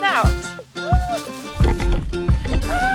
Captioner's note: ploughing into twigs